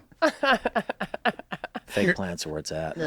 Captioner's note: laughs